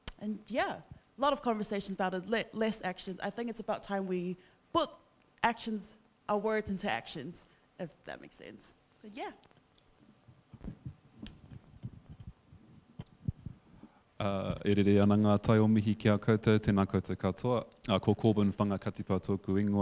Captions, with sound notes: And yeah, a lot of conversations about it, less actions. I think it's about time we book actions, our words into actions, if that makes sense but yeah. (speaking in foreign language)